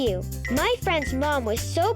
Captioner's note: planet clinking